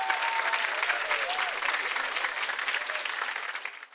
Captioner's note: applause; clapping